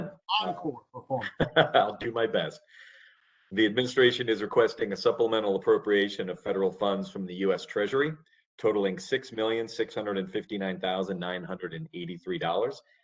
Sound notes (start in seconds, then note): 1.2 laughter